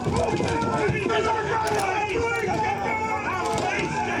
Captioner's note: policemen continue shouting